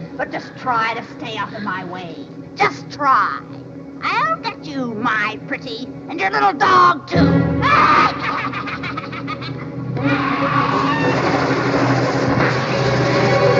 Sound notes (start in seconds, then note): 7.2 Wicked Witch cackles; 10.2 dramatic music